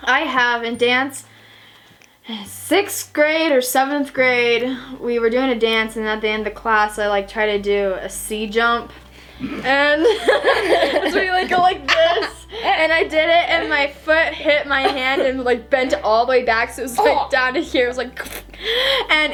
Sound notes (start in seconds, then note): 9.4 laughs